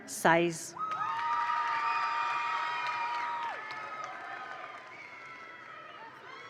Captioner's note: attendees cheer; attendees applaud